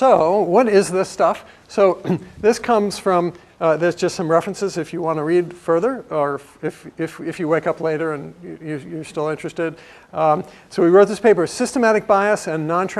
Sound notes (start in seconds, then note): 2.0 cough